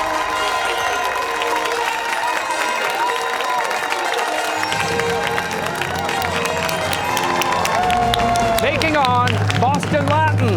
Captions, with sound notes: (fanfare) (cheers and applause) ...taking on Boston Latin!